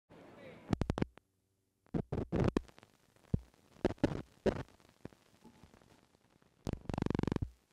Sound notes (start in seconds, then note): 0.1 dissonant static